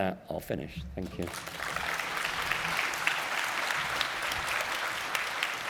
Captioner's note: audience applauds